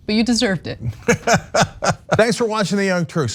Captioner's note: laugh